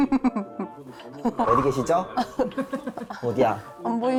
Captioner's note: sound effect of searching